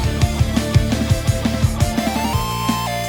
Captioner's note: none